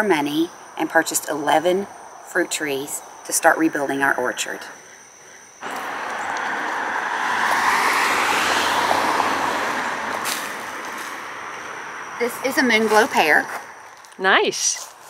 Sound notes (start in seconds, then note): 7.0 car goes